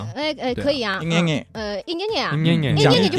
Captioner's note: shanghai dialect